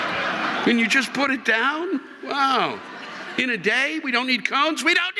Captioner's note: audience laughing